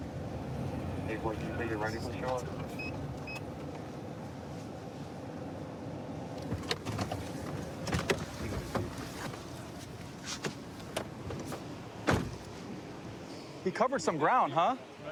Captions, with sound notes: [indistinct dispatch speech] He covered some ground, huh?